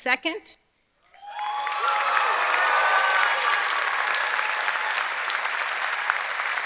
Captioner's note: audience cheering; audience applauding